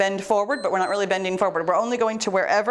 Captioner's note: timer beeps